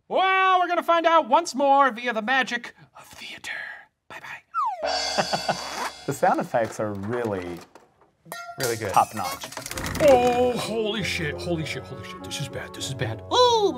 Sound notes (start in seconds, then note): 6.2 laughs; 6.2 items crashing in background